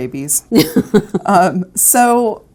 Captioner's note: laughs